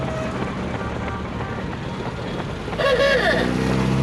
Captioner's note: cars honking